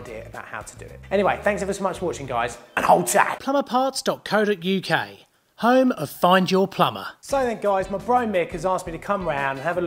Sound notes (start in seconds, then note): 3.7 voiceover